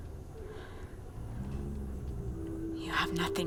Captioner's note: low growl